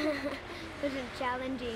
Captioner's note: laughter